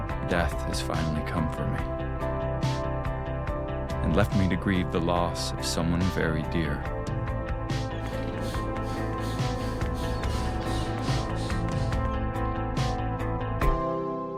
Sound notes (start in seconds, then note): 8.0 heavy breathing crescendos